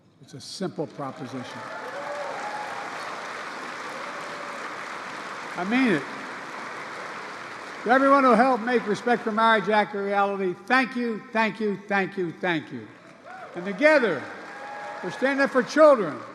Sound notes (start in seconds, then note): 4.0 applause; 12.4 applause